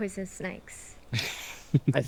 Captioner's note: chuckles